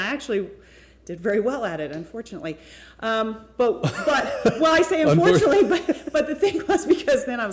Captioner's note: laughter